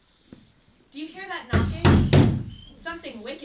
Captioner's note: loud knocking